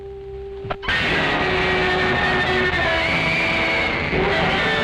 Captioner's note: screaming